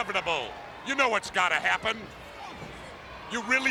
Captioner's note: footsteps plodding